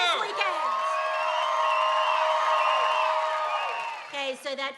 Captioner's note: cheering, applause